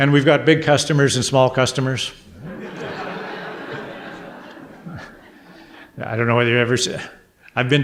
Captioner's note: audience laughter